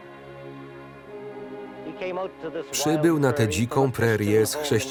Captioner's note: Dan yells